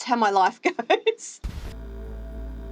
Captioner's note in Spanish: risas